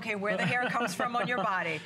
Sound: laughter

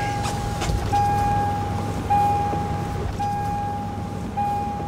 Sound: engine turning over; seatbelt warning beeping

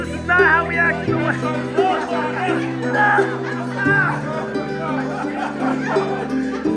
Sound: group laughs; dying man shouts; laughs

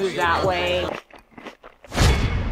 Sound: crunching; uptempo beat

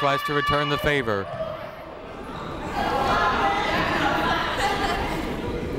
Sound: people talking in the crowd

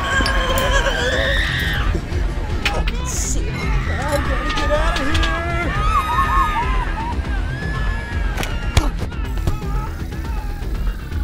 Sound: screams from the partygoers

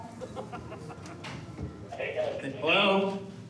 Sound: on phone

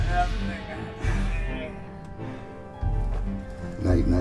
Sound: groans

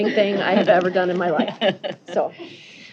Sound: laughter

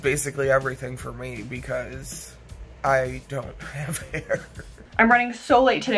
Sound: chuckles

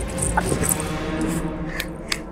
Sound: clapping

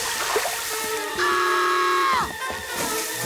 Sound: screaming

